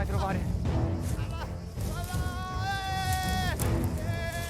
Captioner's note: crowd screams in excitement